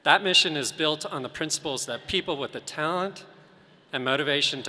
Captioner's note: none